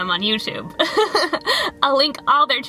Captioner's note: laughter